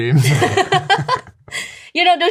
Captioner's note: laughter